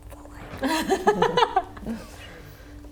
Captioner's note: laughs